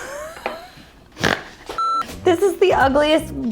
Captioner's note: laughing and snort